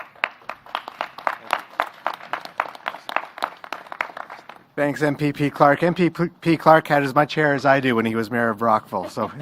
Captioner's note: applause